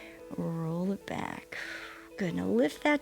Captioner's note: exhales